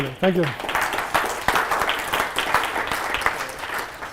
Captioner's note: applause